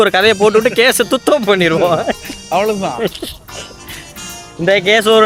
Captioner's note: laughter